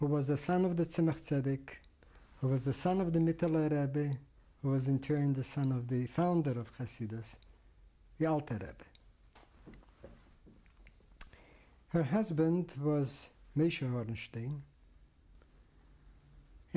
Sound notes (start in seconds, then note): 8.8 pauses for 3 seconds